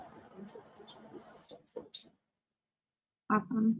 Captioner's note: audio is choppy